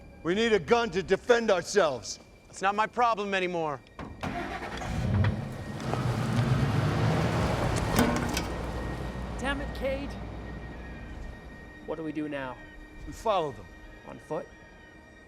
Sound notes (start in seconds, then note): 4.2 engine starts